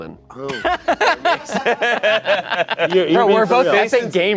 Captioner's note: laughing